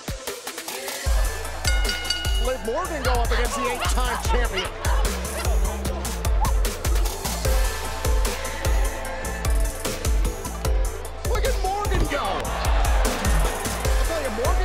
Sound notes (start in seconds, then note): 0.2 upbeat music; 1.5 bell ringing; 5.8 women yelling; 8.5 upbeat music; 11.2 crowd cheering